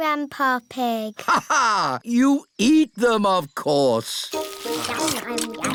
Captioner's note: laughs